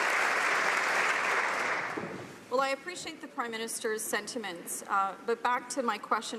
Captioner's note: applause